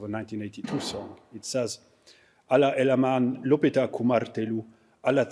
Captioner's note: speaking finnish